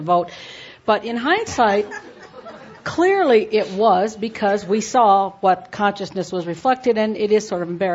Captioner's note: laughter